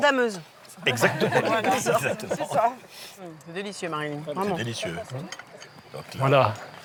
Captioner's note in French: rires